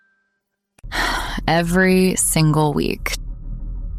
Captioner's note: sighs